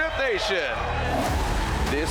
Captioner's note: tires screeching